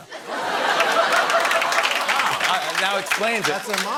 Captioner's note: laughter